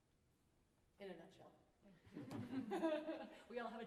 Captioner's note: laughter